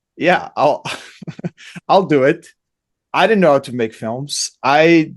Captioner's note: laughs